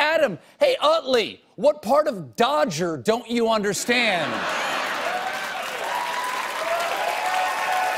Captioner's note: cheers and applause